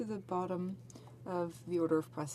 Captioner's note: speaking in french